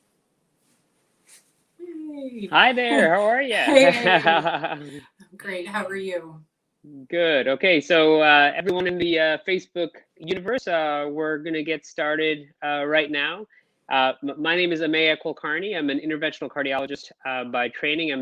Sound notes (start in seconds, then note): 2.6 laughing